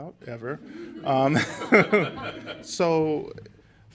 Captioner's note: laughter